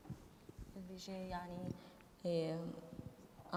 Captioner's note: speaking kurdish